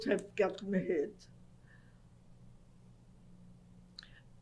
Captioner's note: pauses for 3 seconds